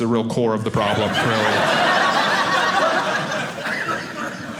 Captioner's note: audience laughing